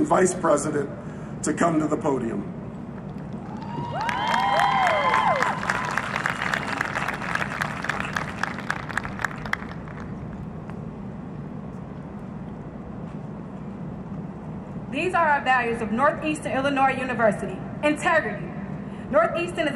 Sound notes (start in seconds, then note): 3.3 cheering and Applause